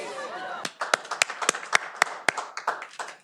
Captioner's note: clapping